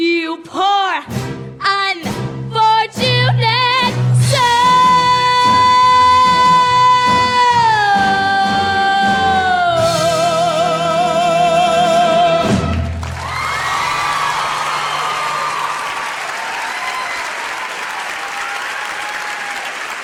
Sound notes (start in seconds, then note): 5.7 cheering; 5.7 singing; 16.2 applause